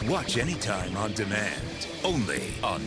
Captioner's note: none